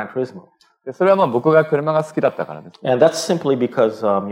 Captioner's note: speaking japanese